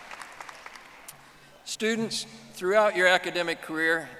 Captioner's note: audience applauding